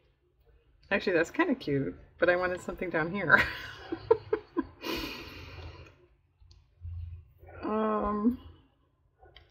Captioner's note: laughs